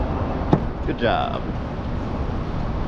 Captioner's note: boot slap